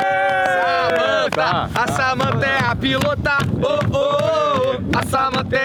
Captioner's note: chanting